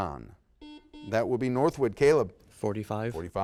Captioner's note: buzzer beeps